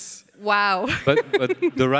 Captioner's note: laughs